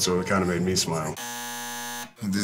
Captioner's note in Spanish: zumbador